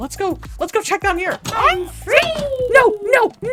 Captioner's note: yells